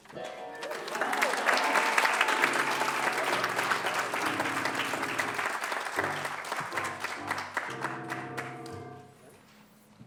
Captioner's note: applause